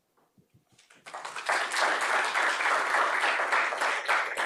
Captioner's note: applause